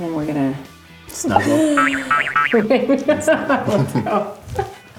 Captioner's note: laughing